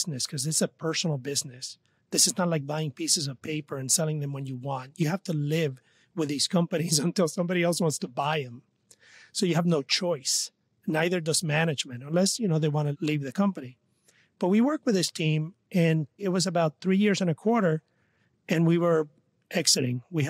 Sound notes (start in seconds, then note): 6.7 laughs